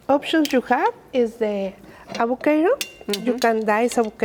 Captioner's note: plastic spoon taps